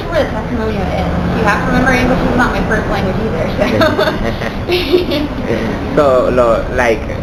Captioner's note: laughter 00:06:09; laughter 00:06:10